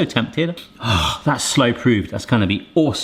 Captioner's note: sighs